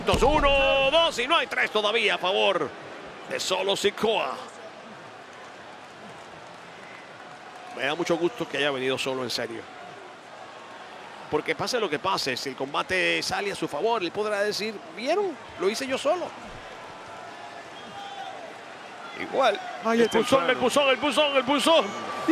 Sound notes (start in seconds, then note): 5.0 applause